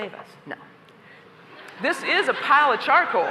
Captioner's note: laughter